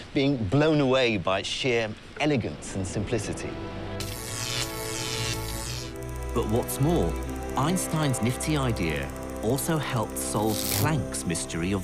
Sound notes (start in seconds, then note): 3.9 electricity humming; 6.5 voiceover